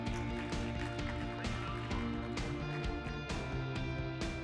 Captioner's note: bright music; crowd applauding